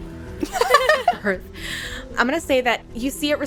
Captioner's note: laughter